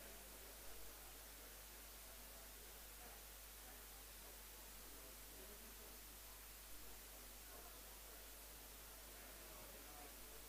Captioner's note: indistinct conversation